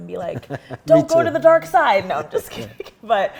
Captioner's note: chuckles